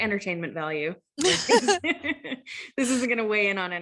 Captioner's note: laugh